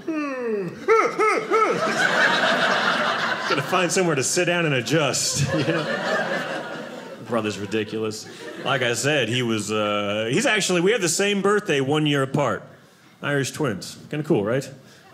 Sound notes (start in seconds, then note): 0.0 yawn; 0.8 yelling; 0.8 audience laughing